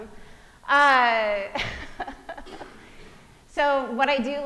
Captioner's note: laughing